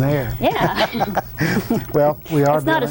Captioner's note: all laugh